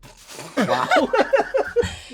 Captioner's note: laughing